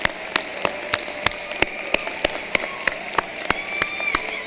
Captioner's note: cheering and applause